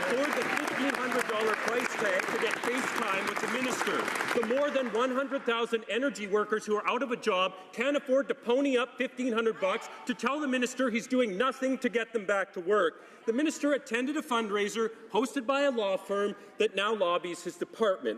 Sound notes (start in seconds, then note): 3.1 some Applause